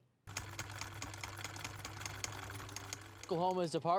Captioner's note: typewriter keys clack